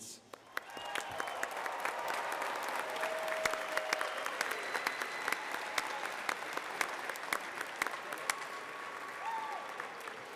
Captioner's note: applause